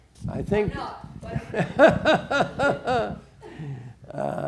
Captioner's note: laughs